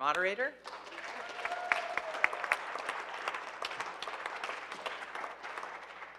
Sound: audience applauding and cheering

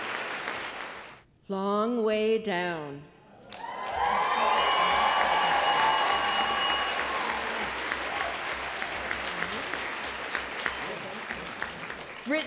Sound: applause

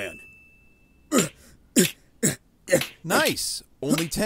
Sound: various grunts while hitting wall

